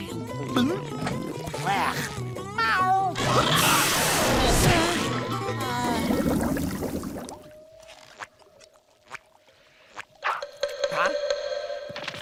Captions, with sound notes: Yuck. Meeow. [sighs] Huh?